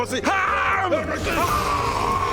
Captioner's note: haaaaargggghhh!!